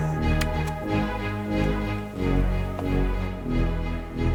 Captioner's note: keyboard clacks